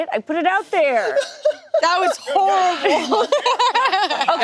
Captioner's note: group laughing